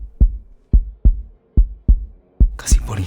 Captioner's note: heartbeat continues